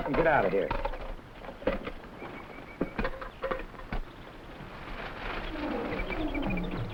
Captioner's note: animals chattering; plants rustling